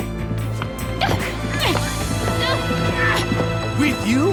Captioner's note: beeping